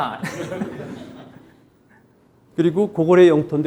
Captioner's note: audience laughing; speaking in Korean